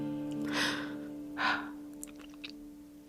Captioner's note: crying